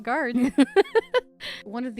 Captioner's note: laughter